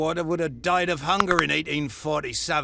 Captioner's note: crunch